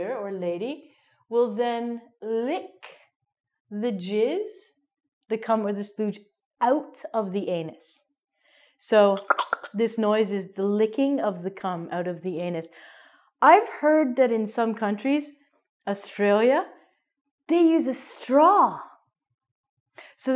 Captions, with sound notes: or lady -- will then lick the jizz, the cum, or the splooge out of the anus. So [clicks tongue] this noise is licking of the cum out of the anus. I've heard that in some countries -- Australia -- they use a straw.